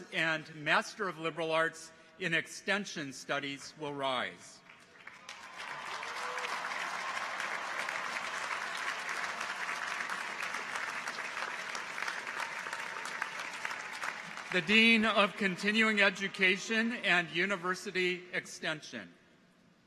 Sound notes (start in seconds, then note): 4.7 audience applauds; 5.0 people cheer